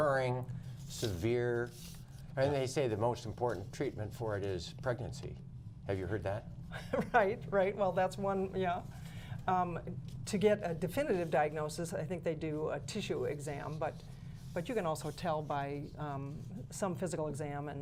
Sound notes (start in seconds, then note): 6.7 laughter